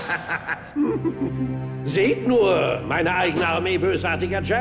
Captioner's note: laughing